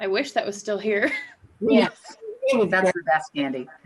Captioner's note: laughs